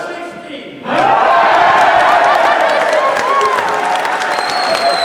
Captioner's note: crowd erupts in cheers